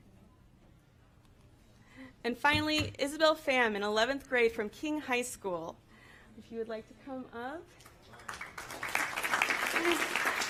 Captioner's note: applause